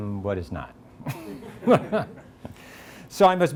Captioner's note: all laugh